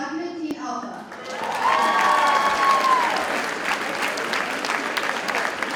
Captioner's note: audience cheers and applauds